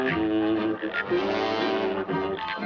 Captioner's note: whistle